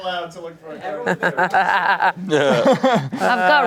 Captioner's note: everyone laughs